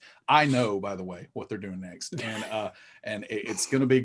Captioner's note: chuckling